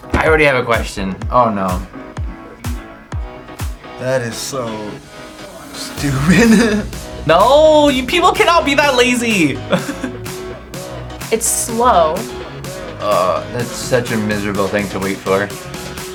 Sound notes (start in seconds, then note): 5.9 laughs